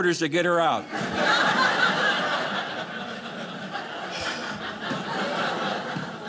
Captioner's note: audience laughing